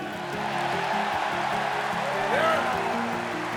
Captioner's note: crowd cheers